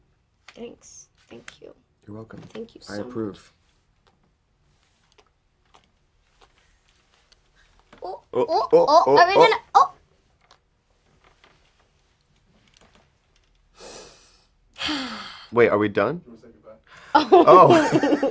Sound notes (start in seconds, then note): 14.7 she sighs